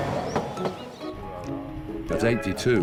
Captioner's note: upbeat instrumental music; speaking in foreign language